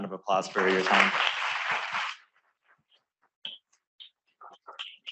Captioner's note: applause